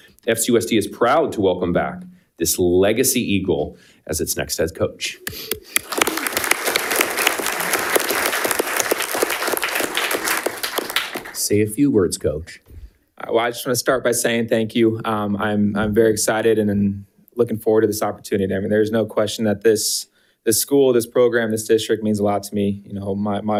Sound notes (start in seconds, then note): 5.3 audience applauding